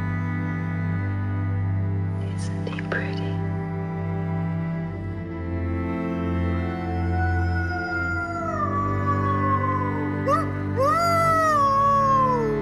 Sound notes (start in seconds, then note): 5.0 man howling; 9.0 howling continues